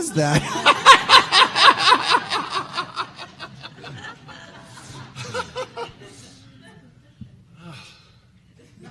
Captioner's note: laughter